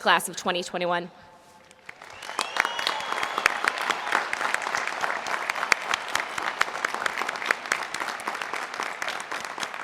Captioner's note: applause